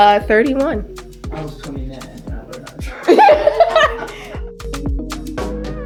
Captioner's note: everyone bursts into laughter